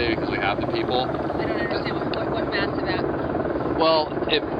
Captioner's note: voiceover